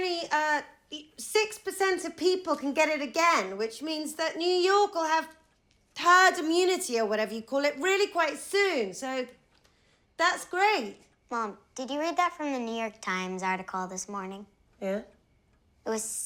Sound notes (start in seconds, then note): none